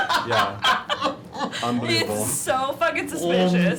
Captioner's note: laughing